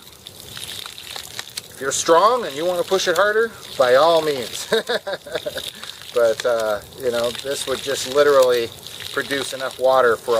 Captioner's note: laugh